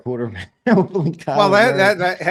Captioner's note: laughs